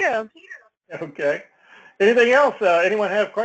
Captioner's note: laugh